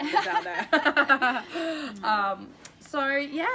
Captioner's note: laughter